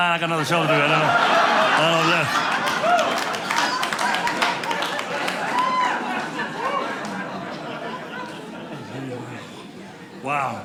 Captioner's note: audience laughing